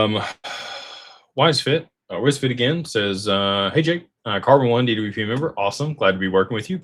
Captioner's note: sighs and gasps